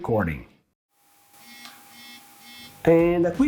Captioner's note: camera sounds